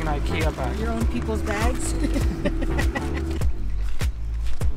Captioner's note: laughs